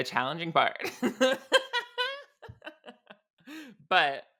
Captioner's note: laughs